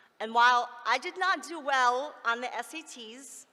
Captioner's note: none